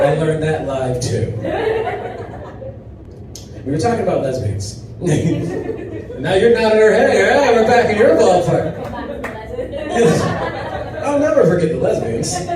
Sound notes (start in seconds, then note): 1.3 audience laughs; 5.1 chuckles; 10.2 audience laughs